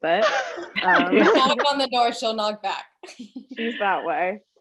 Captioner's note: laughs